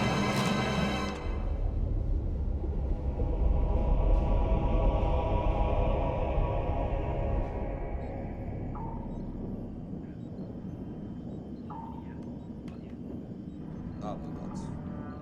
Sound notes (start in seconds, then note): 8.2 intermittent beeping